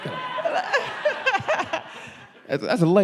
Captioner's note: laughing